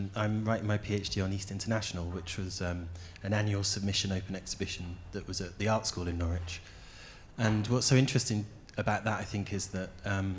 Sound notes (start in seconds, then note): none